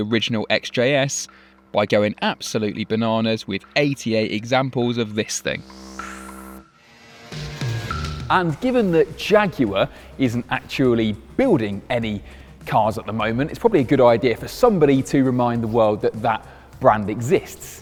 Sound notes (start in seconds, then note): none